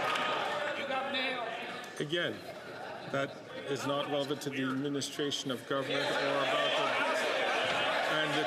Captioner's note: some Applause